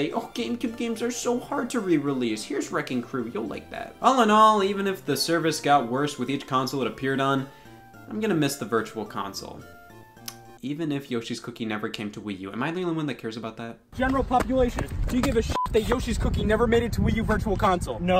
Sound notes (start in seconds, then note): 15.5 beep